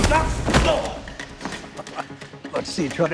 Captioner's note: grunt; chuckle